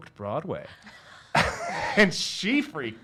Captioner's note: laughs